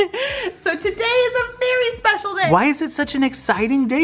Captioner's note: laughs